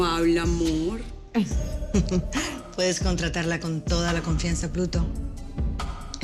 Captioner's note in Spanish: Ríe